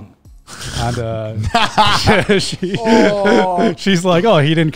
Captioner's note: laughs